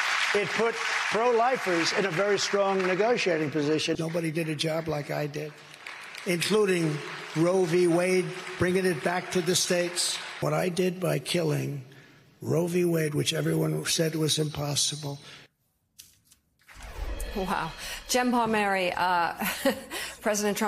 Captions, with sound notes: I GOT RID OF ROE V. WADE. BY DOING THAT -- [ APPLAUSE ] BY DOING THAT, IT PUT PRO LIFERS IN A VERY STRONG NEGOTIATING POSITION. NOBODY DID A JOB LIKE I DID, INCLUDING ROE V. WADE, BRINGING IT BACK TO THE STATES. WHAT I DID BY KILLING ROE V.